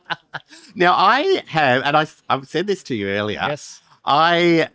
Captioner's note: laughter